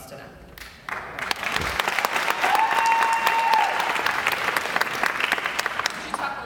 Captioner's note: audience applause